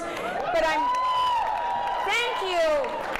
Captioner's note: audience cheers